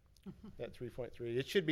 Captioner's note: laughing